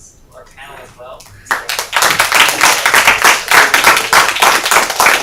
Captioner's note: applause